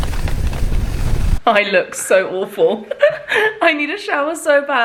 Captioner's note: laughs